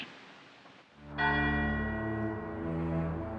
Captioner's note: bell tolling